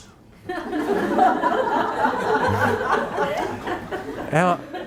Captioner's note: audience laughing